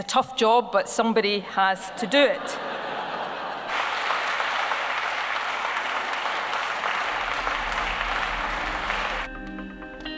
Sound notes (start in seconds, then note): 1.8 laughter; 3.6 applause